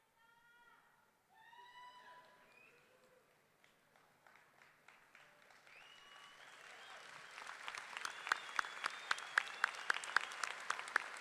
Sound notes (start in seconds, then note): 1.8 audience cheering; 2.9 audience clapping